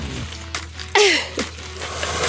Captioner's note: giggles